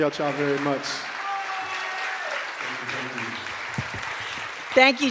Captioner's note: cheers and applause